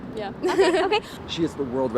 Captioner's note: laughing